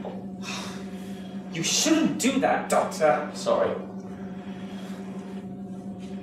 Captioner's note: sighing